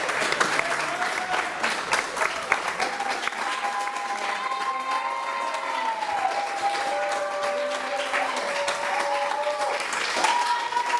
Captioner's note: cheers and applause